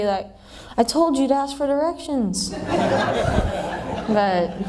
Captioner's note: laughter